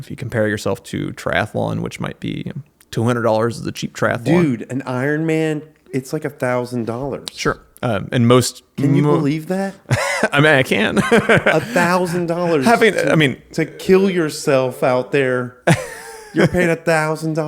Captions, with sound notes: If you compare yourself to triathlon, which might be $200 is the cheap triathlon. Dude, an Ironman, it's like $1,000. Sure. And most-- Can you believe that? I mean, I can. (laughs) $1,000. I mean-- To kill yourself out there, you're paying $1,000.